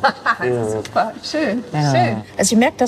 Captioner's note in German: lacht